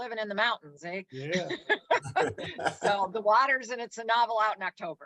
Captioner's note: laughs